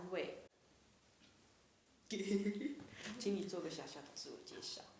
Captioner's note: laughs